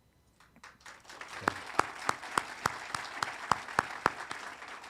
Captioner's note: audience applauding